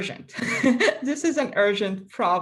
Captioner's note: laughing